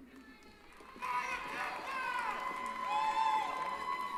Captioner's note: cheering